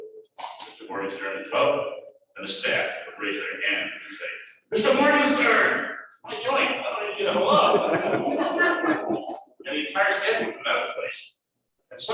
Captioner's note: laughter